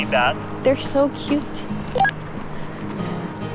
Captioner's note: walkie talkie beeps